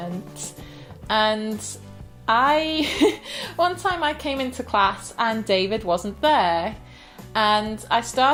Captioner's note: laughs